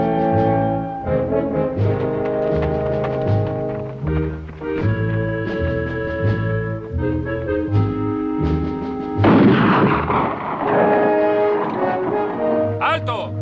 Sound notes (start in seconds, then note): 9.2 gun fires